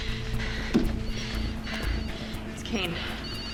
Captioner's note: phone ringing